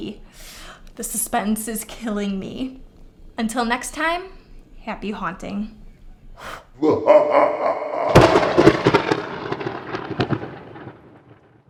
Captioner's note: spooky laughter and thunder